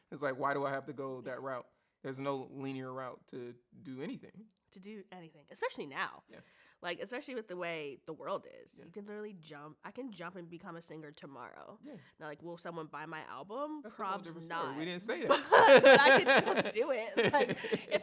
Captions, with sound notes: It's like why do I have to go that route? There's no linear route to do anything. - To do anything. Especially now. - Yeah. - Like, especially with the way the world is. - Yeah. - I can jump and become a singer tomorrow. - Yeah. - Now, like, will someone buy my album? - That's what I was supposed to say. We didn't say that. (both laugh) - But I could still do it.